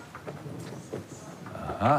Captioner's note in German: Schritte